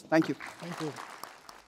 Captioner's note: applause